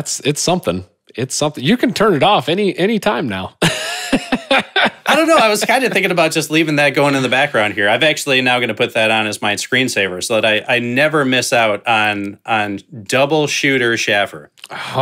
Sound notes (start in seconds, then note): 3.6 laughing